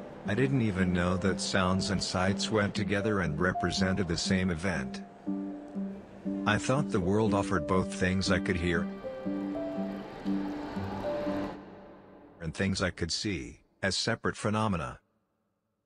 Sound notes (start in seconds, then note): 9.0 flowing water